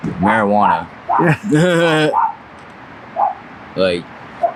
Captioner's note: and Interviewer chuckle